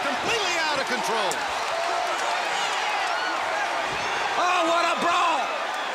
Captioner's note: crowd chatter